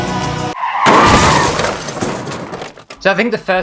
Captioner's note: car crash